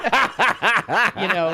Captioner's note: laughing